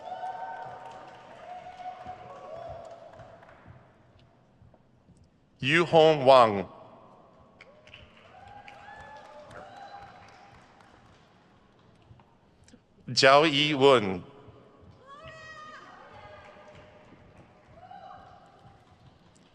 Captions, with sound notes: (crowd cheers) Yuhong Wang. (crowd cheers) Zhaoyi Wen.